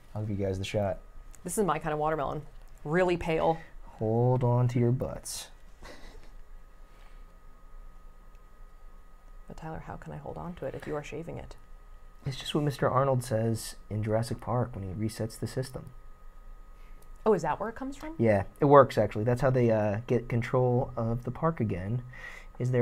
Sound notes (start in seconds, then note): 5.8 laughs